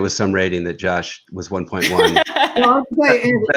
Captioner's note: chuckles